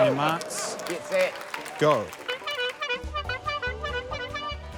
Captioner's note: toots horn